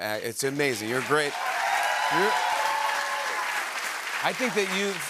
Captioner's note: cheers and applause